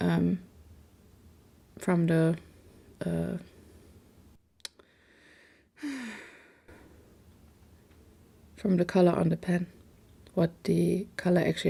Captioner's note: sigh